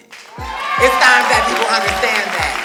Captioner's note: cheers and applause